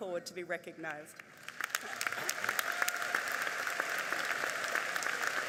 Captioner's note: audience applauding